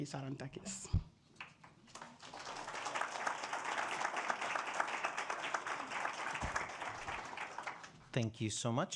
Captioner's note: applause